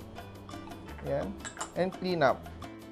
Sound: clink

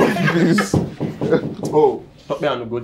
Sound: laughs; knock

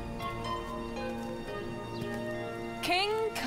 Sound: footsteps

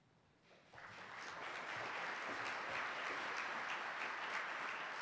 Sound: applause

